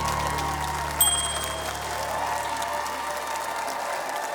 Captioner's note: cheering, applause; ding!